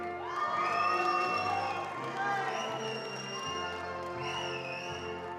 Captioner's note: attendees cheering and applauding